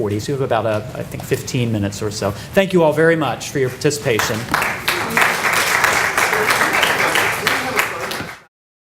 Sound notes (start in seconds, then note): 5.8 clapping